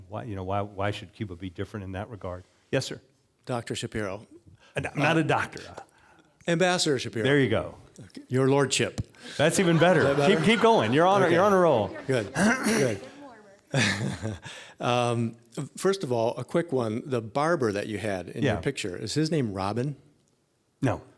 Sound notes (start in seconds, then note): 9.2 audience laughing; 14.1 laughing